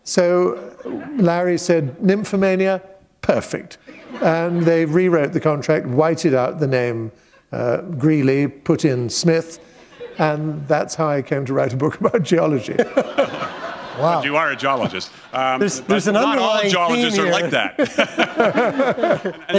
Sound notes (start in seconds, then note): 12.7 laughter